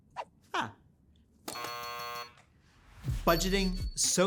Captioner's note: buzzer buzzing